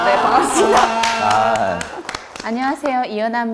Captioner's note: EVERYONE claps